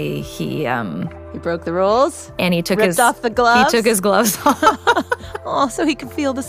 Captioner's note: laughs